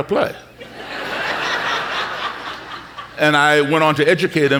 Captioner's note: audience laughing